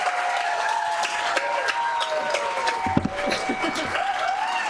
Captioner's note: cheers and applause